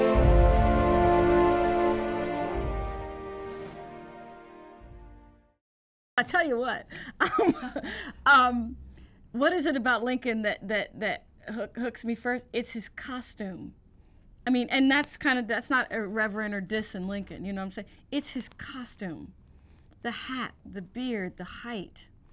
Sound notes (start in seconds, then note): 2.5 music fades; 7.2 laughs